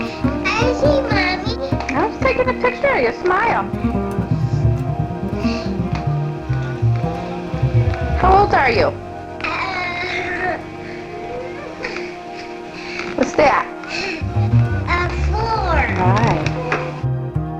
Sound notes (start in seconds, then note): 4.8 bright dramatic music; 11.2 laughing